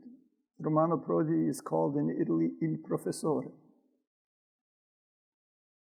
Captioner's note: speaks in foreign language